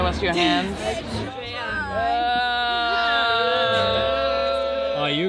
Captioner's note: overlapping chatter